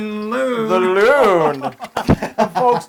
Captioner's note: laugh